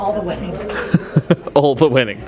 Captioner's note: chuckles